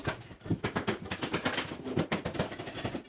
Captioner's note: hammering